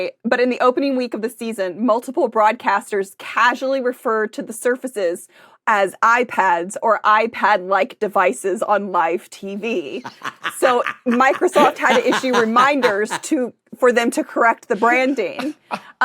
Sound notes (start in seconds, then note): 10.0 cackles